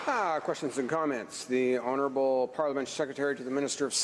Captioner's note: applause